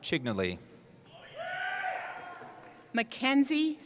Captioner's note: cheering